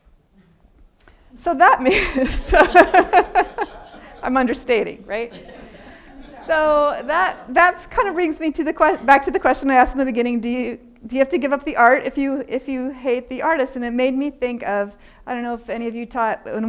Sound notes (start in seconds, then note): 1.8 laughing; 1.9 audience laughing